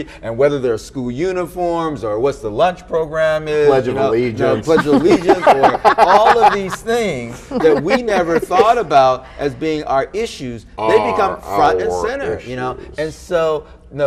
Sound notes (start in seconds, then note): 3.7 all laughing